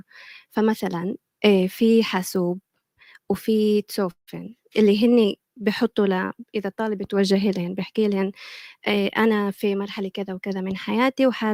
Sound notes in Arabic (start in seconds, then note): 3.1 لغة أجنبية